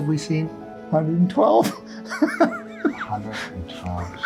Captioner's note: chuckles